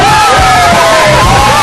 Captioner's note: all cheering